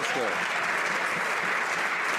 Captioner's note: some Applause